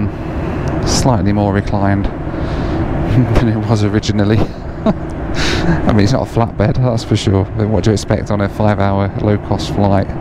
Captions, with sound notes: Slightly more reclined than it was originally (laughs) I mean, it's not a flat bed, that's for sure. But what do you expect on a 5 hour low cost flight?